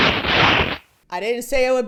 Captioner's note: the worst crunch sound you've ever heard in your life